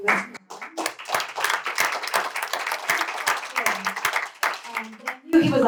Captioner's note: applause